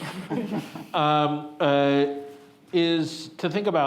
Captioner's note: all chuckling